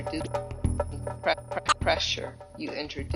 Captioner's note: tape rewinds